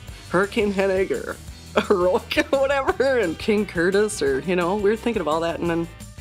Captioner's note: laugh